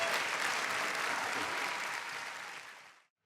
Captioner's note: audience applauding